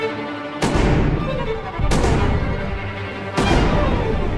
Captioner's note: gun firing